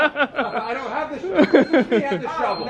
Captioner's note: laughing; chuckling